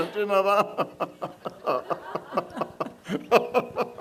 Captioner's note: laughing; couple and audience laughing